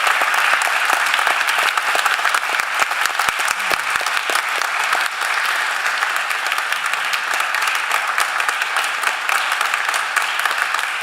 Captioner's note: cheering and applause